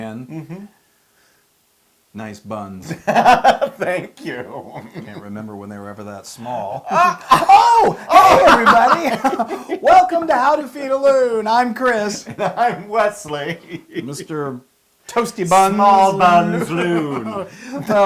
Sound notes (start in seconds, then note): 2.8 laugh; 9.2 laugh